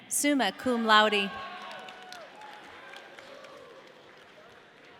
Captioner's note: audience cheering